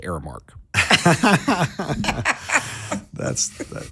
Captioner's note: all laughing